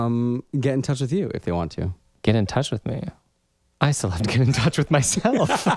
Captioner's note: laugh